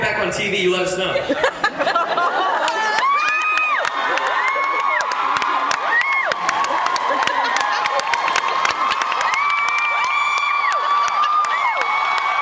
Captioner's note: laughs, cheers